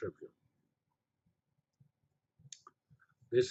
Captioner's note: pause